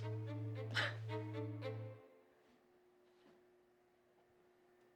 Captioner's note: Danielle chuckles